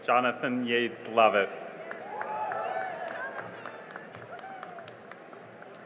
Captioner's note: cheering and applause